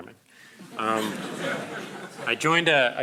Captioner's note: crowd laughing